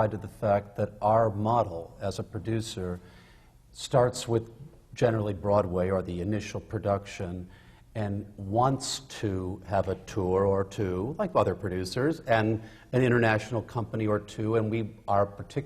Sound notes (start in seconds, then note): none